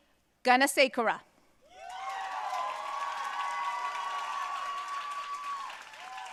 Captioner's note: audience cheering and applauding